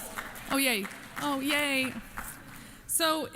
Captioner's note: applause